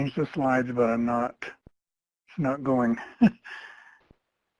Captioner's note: chuckle